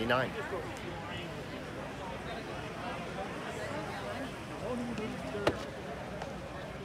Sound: indistinct background chatter

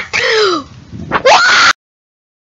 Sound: long gasp; blow

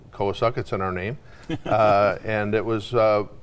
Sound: chuckling

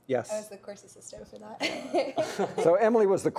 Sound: laughs

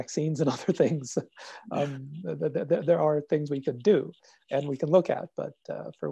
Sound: laugh

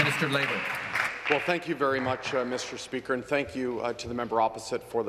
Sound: some Applause

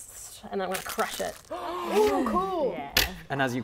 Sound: speaks in tongues; gasps

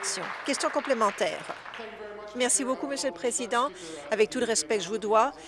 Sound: applause

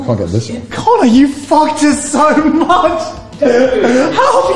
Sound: laughs

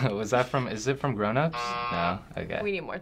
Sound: buzzer

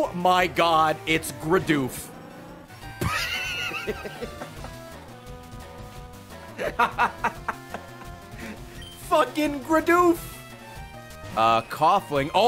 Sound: laughs

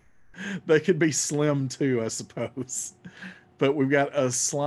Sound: laughing

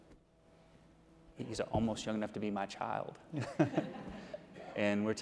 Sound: chuckles

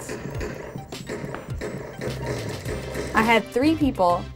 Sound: game noises

